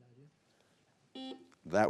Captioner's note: buzzer buzzing